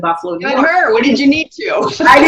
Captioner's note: laughs